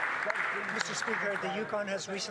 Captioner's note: applause